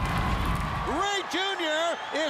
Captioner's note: crowd cheering